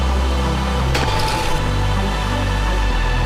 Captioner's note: snowboard clangs on metal